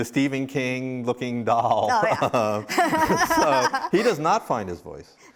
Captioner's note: laughs